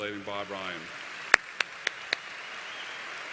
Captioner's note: applause